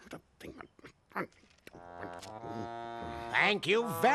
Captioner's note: grumbling